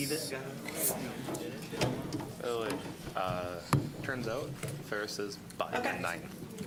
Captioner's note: general chatter